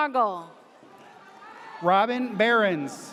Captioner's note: audience cheers